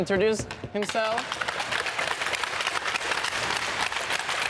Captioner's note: sticks clacking